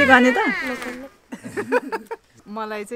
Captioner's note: laughs